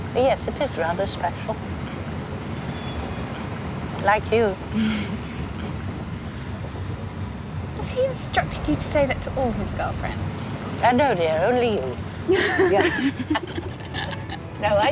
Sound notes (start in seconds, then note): 5.5 laughing; 12.3 both laughing